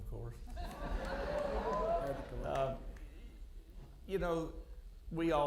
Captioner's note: audience laughing